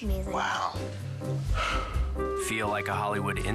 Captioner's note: sighs